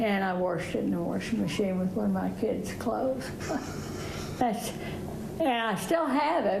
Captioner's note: laughs